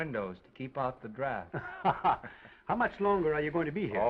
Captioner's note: Oliver laughs